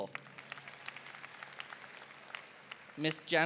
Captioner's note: audience applauding